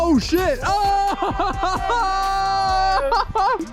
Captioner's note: everyone cheers